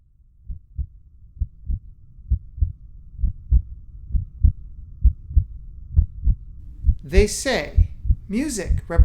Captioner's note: heartbeat sound